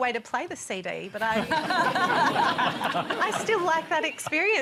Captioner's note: laughter